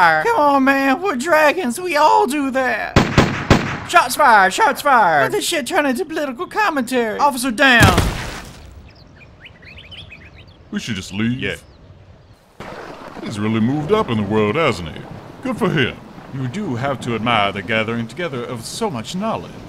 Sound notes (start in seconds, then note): 2.9 gunshots